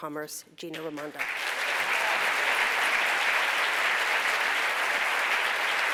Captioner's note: applause